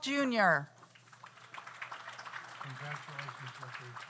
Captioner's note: audience applauds